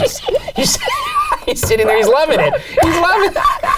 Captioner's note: snickers; squeals